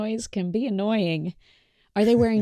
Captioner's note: chuckles